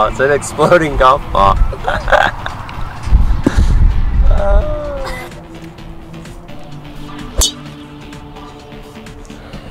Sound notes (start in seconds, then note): 7.3 golf ball impact sound